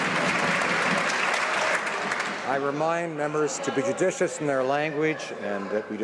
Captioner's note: some Applause